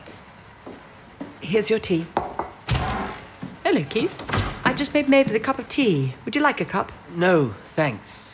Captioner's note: the door opens. Footsteps